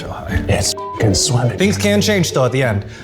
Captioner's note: beep